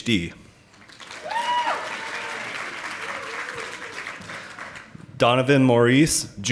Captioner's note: audience applauding